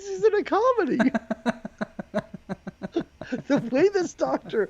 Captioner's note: laughing